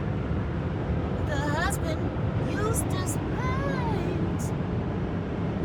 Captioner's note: imitating Courage the Cowardly Dog